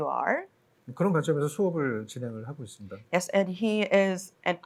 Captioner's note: speaking korean